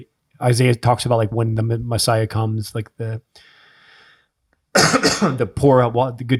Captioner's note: coughs